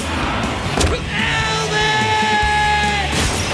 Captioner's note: thud as Dave is hit